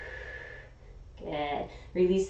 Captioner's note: inhaling; exhaling